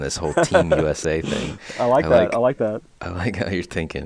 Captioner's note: laughing